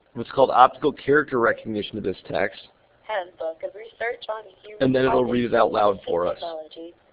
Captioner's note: computer reading